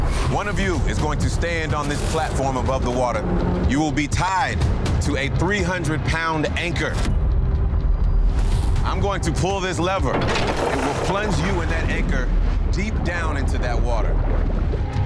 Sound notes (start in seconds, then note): 10.1 chain clanking; 14.1 water splashing